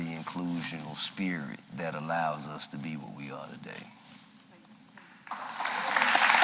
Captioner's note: applause